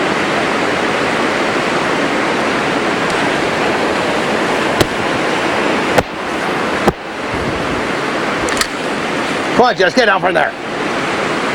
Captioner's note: water splashing